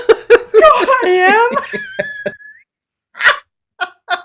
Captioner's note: laughing